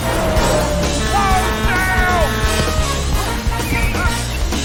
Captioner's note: horn blaring